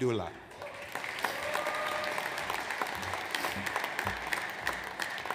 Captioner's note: audience applauds